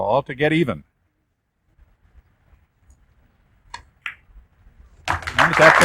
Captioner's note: applause